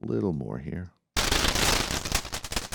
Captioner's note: crashing